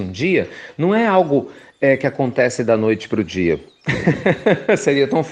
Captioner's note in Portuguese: Risos